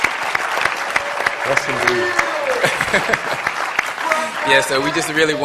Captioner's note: laughter; applause